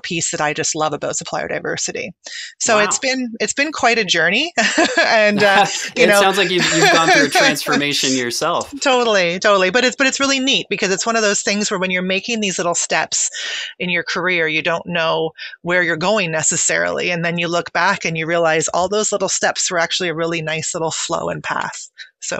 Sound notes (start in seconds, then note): 4.7 laughing